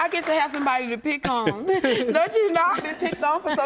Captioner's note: laughs